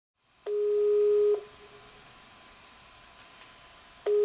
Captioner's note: Skype dial tone